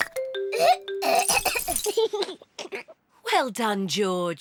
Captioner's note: splutters; giggles